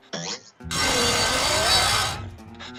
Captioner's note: buzz saw grinding; panting